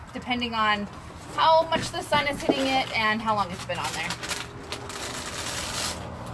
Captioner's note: none